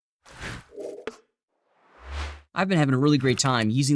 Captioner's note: whoosh